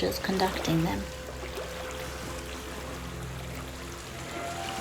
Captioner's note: water splashing